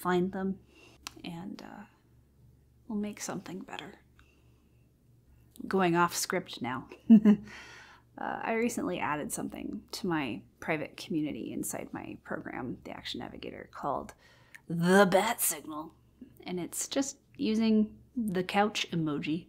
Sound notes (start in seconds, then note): 7.0 chuckles